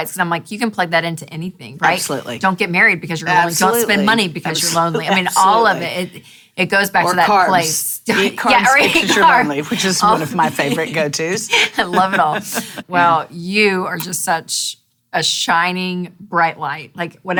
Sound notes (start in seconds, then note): 8.1 chuckles